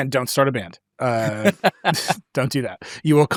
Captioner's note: laughs